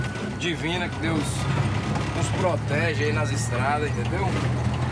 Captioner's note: Portuguese spoken audio